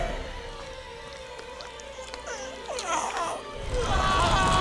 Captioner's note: gasping